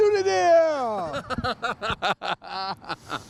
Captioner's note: laughing